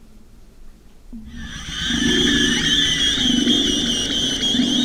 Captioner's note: eerie screeching